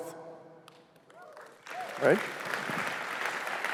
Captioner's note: cheers, applause